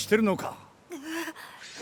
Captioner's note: gasp